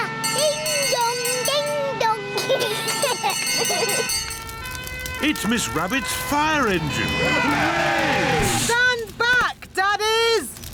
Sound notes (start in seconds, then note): 2.4 children giggling; 4.0 siren blares; 6.8 all cheer